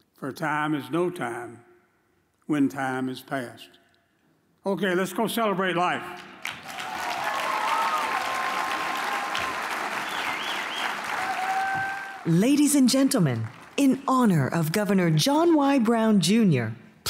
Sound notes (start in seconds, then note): 6.2 audience applauds